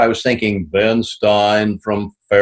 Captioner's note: In Ben Stein's voice